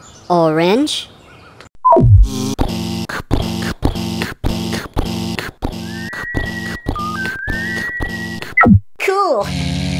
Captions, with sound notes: Orange [ beep] [ buzz] [ pounding footsteps] [ beep] Cool !!